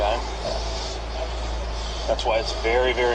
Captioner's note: tense music; heavy breathing